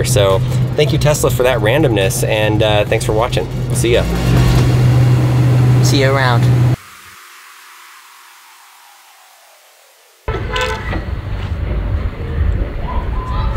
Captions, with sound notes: So thank you Tesla for that randomness, and thanks for watching. See ya. - See you around. (hooting)